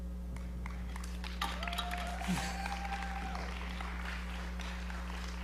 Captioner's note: audience cheering